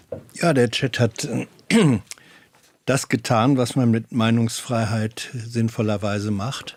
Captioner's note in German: räuspern